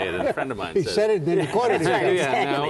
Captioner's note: laughter